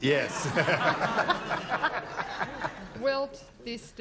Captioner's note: laughter